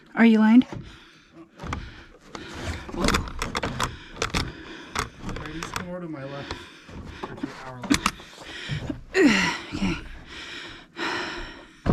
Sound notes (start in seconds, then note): 2.4 grunts; 8.7 exertive grunt